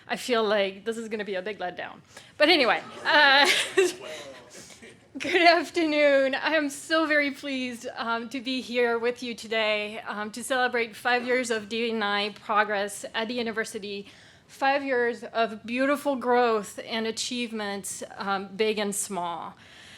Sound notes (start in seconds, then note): 2.7 laughing